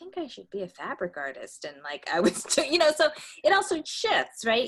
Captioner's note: laughs